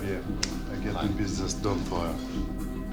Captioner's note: speaking french